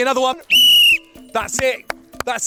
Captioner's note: whistle blows